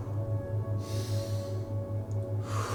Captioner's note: exhales; inhales; exhales